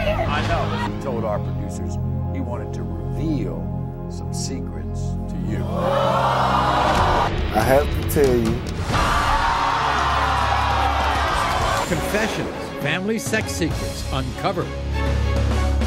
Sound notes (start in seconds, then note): 6.0 audience gasping; 8.8 audience cheering